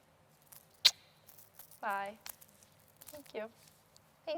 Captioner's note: kissing